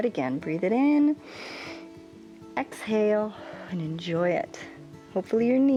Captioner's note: inhales